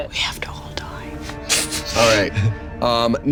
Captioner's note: whispers